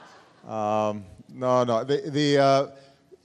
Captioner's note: laughter